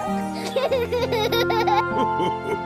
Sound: giggling

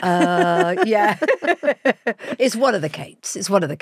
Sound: both laughing

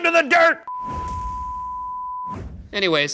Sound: high-pitched tone beeping

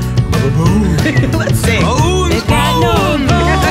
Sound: giggles

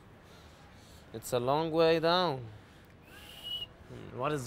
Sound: whistles

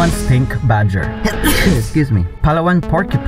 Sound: sneezes

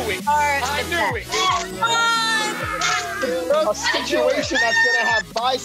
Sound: people cheering

